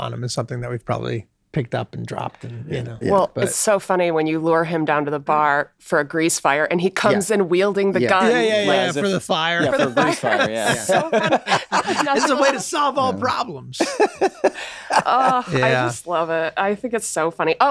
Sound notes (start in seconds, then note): 10.7 laughs; 13.7 laughs